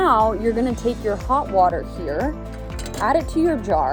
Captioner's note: kettle clattering